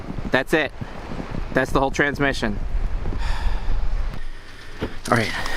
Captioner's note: sigh